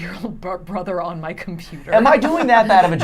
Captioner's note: laughing